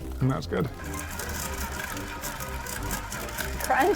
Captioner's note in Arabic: موسيقى مبهجة; طنين الخلاط